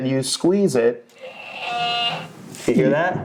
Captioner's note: dinosaur roars